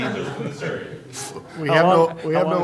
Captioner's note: laughter